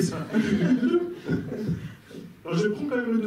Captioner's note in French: rires